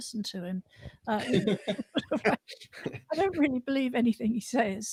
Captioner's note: laughter